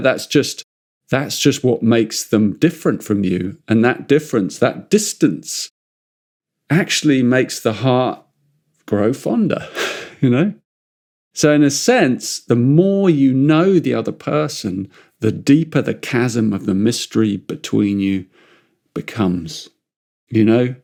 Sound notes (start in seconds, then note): 9.6 chuckles